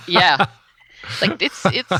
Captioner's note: laughs